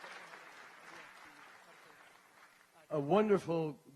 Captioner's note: applause